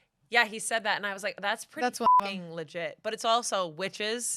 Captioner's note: beep